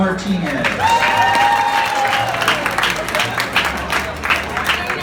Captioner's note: claps and cheers